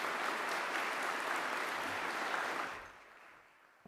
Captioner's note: applause